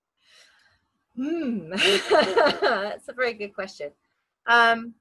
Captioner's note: laughs